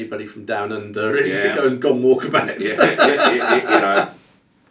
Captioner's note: laughing